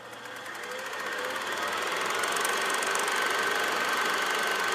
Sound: film tape rolling

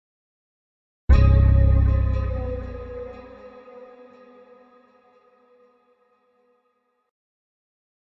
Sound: simply spooky sound

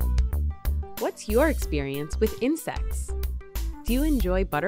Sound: voiceover

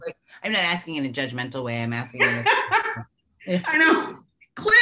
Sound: laughing

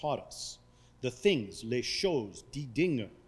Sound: speaking foreign language

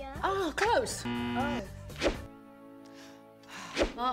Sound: buzzer

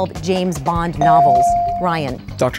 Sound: dinging

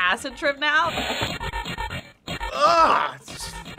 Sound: distorted buzzing

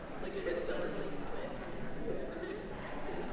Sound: background conversations

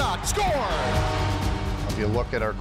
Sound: crowd cheering; goal horn plays

